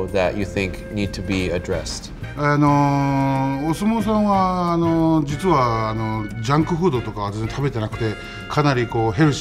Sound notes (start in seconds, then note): 2.1 speaks in foreign language